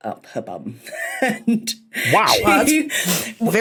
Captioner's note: wheezes